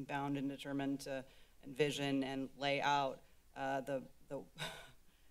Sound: chuckles

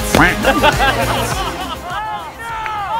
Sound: laughter

